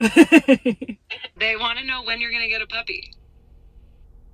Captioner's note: chuckles